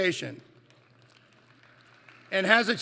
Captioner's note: applause